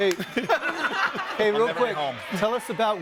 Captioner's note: laughs